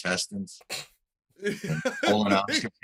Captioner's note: laughter